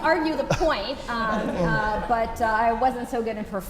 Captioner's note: laugh